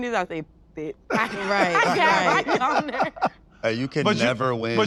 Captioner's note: laughs